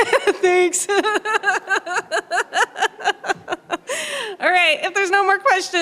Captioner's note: laughter